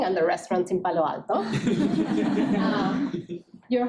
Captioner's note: laughing